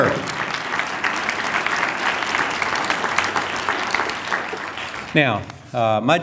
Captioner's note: applause